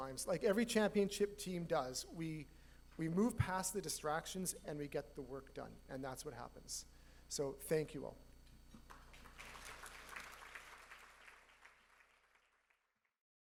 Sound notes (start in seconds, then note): 8.8 audience applauds